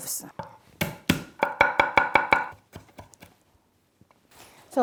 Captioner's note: knife chopping